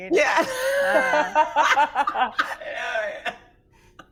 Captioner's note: group laughing